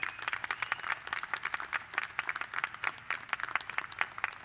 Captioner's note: applause